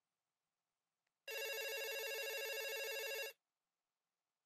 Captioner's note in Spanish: tono de llamada